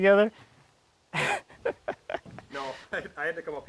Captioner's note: laughing